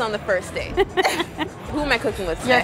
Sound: laughing

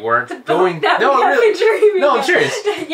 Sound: laughs

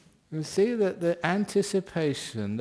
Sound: none

